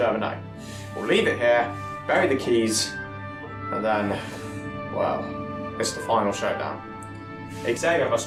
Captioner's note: sighs